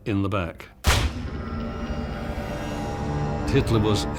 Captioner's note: gun bangs